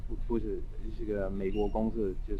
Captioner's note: mandarin